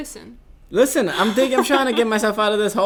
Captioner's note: laughing